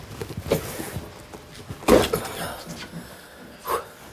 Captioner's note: loud exhalation